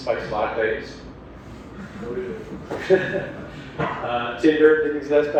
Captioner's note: laugh